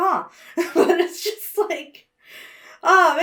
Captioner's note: laughs